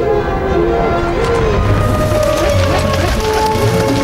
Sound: owls hoot

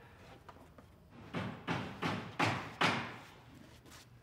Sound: hammering in the background

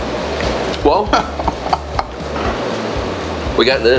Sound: man off-camera laughs

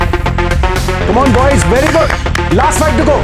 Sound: clapping

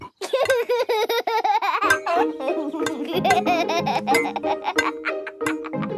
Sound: laughs

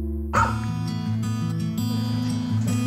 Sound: dog barking

